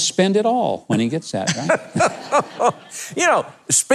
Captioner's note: laughs emphatically